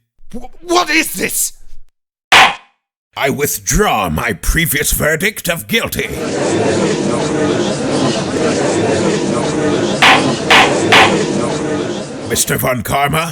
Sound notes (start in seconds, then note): 2.4 gavel slams!; 5.8 gallery chattering